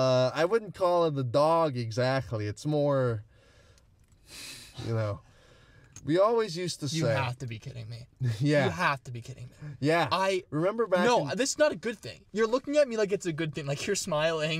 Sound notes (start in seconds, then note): 4.2 exhales